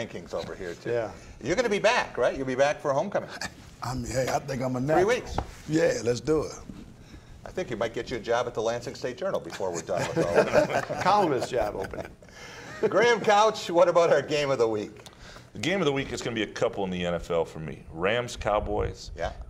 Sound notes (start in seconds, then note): 11.3 laughter